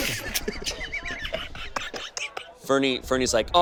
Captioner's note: all laugh